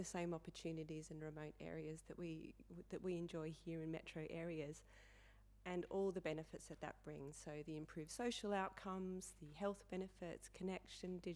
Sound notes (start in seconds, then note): none